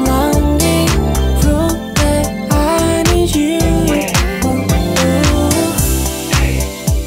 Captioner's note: ooh, ooh